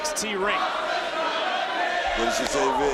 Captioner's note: crowd chants "Asuka's gonna kill you"